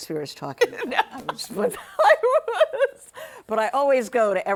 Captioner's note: laughing